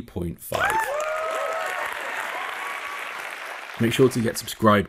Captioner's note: applause